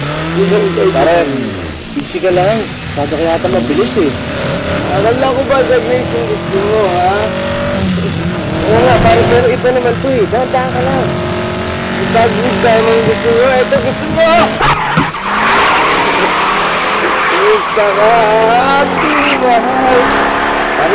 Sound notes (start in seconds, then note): 15.0 tires screeching; 17.3 sings